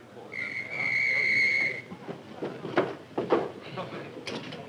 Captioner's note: whistle blowing